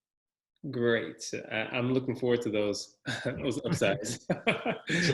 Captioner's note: laugh